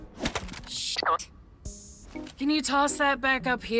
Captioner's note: boink!